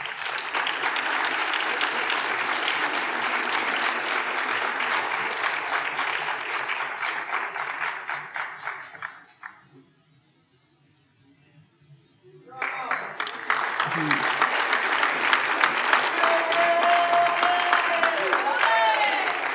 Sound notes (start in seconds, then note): 0.3 applause; 12.5 applause; 13.3 audience cheer